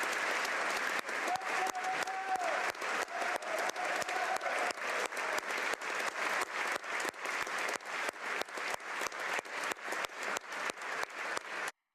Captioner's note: applause